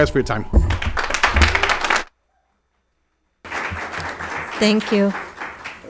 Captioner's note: audience clapping hands